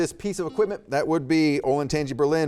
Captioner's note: buzzer beeping